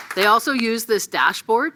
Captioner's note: applause